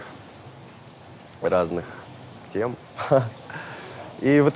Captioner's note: chuckles